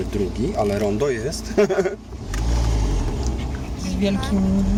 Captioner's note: laughs